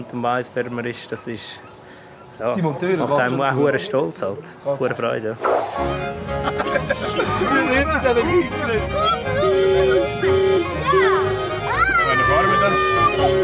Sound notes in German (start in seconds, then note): 8.9 Hupen, Kindergeschrei